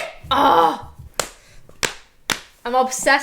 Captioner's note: hands slapping knees